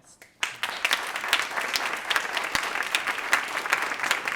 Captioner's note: applause